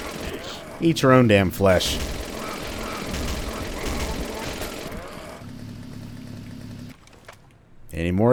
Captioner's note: moar motorized mayhem